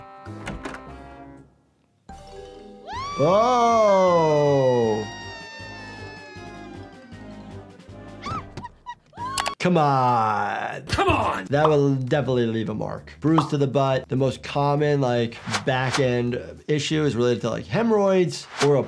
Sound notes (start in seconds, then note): 0.3 door opening; 2.1 light upbeat music; 2.8 Giggles screaming; 8.1 giggles yelping